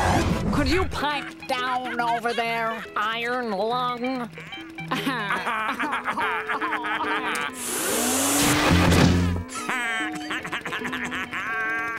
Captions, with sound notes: Could you pipe down over there, iron lung? [laughing] [blower running] [laughing]